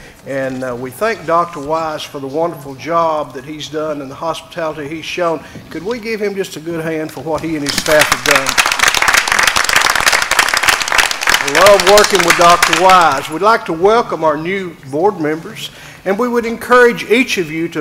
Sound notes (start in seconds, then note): 7.6 applause